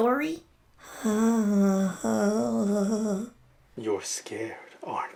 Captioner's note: scared Moaning